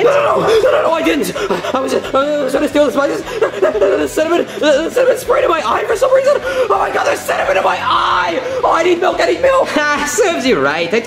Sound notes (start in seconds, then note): 3.9 panting; 9.7 chuckles